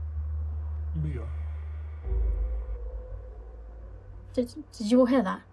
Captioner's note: ghostly Voice